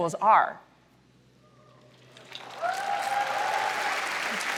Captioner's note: applause